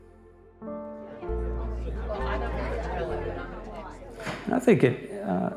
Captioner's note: people chattering over music